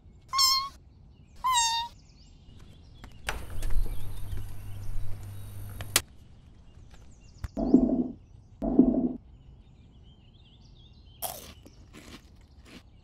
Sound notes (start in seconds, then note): 3.2 fridge Door